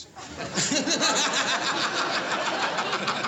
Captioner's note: laughter